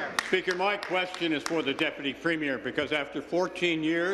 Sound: applause

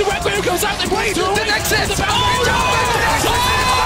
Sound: shouting; hoarse

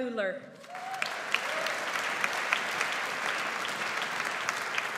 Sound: audience applauds

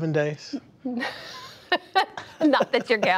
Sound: laughter

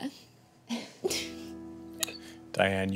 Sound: women laugh

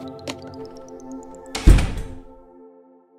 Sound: door shuts

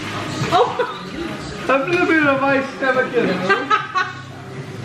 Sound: laughs

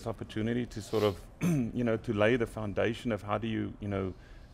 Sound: clears throat

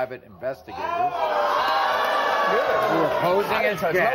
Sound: audience gasps

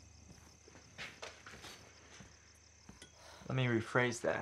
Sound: crickets chirping

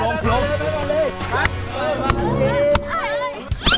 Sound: hitting

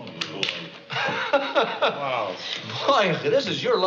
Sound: laughing

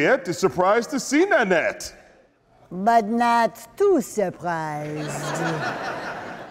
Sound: audience laughing

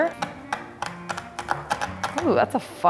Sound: knife chopping

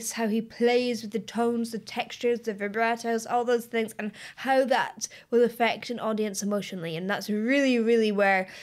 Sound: none

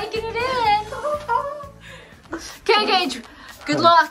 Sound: laughing

